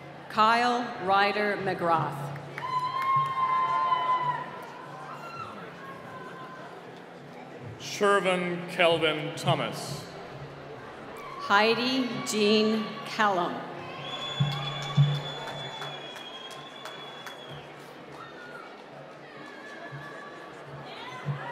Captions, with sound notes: - Kyle Ryder McGroth. (cheering) - Shervin Kelvin Thomas. - Heidi Jean Callum. (whistling)